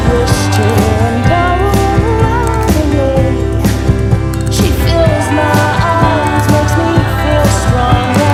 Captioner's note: cheering